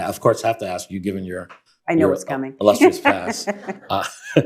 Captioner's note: laughter